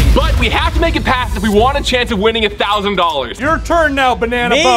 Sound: none

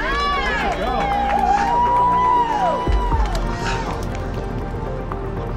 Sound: people cheering

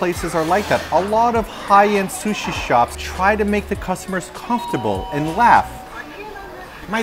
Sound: bell rings

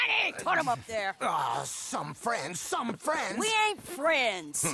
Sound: grunts while being put in the wagon by Bertram

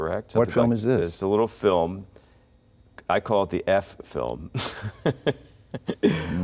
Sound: laughing

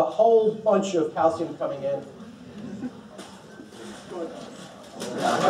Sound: laughter

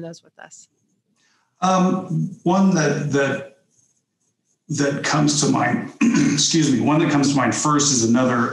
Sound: clears throat

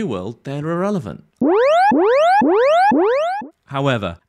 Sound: alarm blares

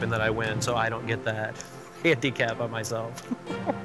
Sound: chuckling

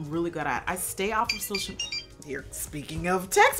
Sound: phone chirps

